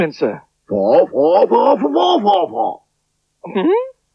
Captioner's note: Spencer Talks In Spider Language